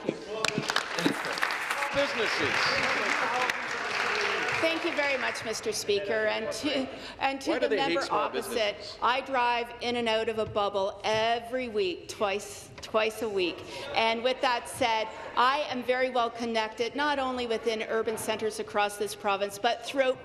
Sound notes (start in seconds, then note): 4.2 applause